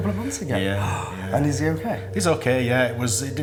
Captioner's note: gasps